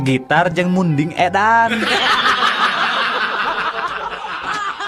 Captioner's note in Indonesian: tertawa